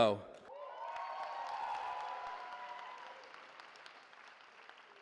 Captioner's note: cheering